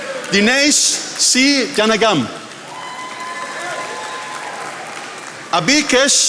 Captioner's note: attendees applauding; attendees applauding